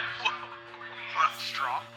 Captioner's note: chuckles